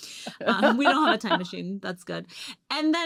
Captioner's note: laughs